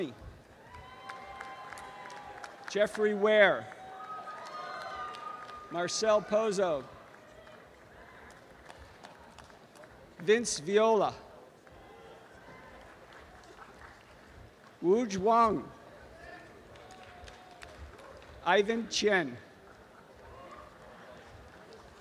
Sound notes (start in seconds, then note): 0.2 applause and cheering; 3.9 applause and cheering; 7.4 applause and cheering; 12.1 applause; 16.2 applause; 20.0 applause